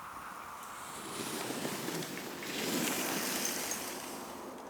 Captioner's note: cold wind; skis through snow